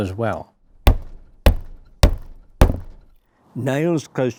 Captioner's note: hammer knocking